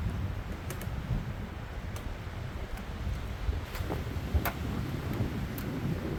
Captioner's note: wind howling